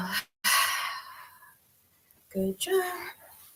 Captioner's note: exhales